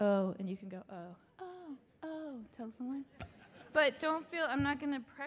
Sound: audience laughing

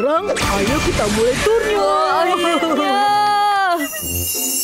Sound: cheering

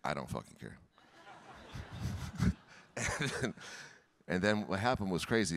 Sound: audience laughing

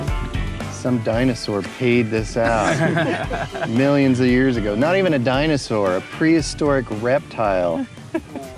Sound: laughs

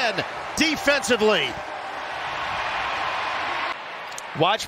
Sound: cheers and applause

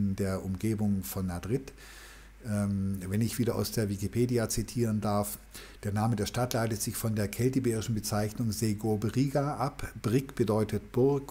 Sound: german

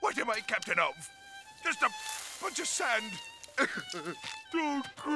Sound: crying

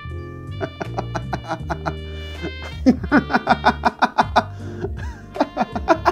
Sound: evil Laughter

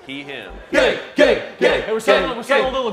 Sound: all chanting "gay"

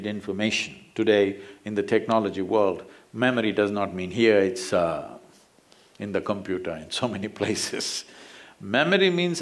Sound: laughs

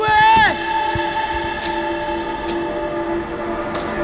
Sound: saw Sound

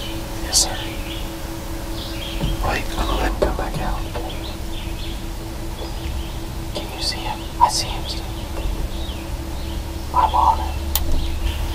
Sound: whispering

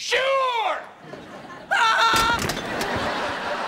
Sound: screaming

